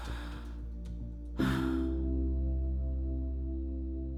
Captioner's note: Hope sighing